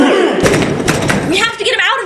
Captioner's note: crash!